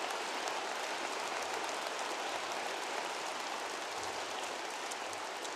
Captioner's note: applause